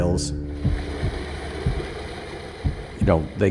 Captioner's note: water rushing